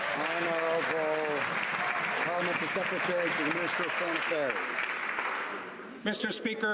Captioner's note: some Applause